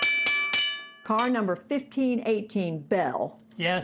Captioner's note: bell ringing